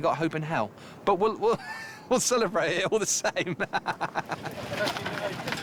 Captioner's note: laughing